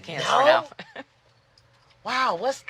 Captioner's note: chuckles